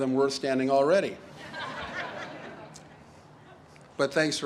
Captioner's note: audience laughs